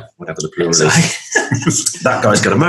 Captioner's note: laughs